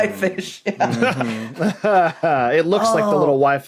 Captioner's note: guessers laugh in turn